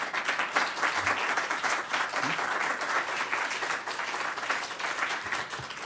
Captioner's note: applause